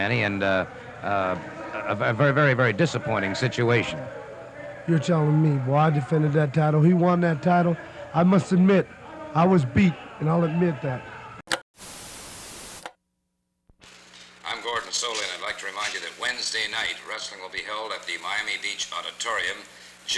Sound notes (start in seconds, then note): 11.2 static crackling; 11.2 television clicks